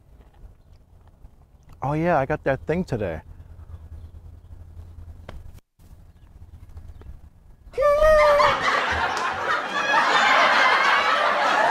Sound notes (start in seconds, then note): 8.2 laughter; 11.0 clapping and cheering